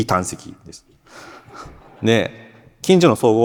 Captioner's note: chuckles